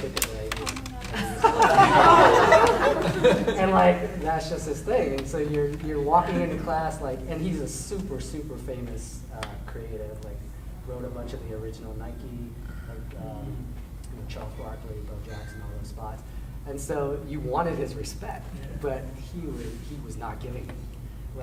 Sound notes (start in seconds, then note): 1.0 audience laughing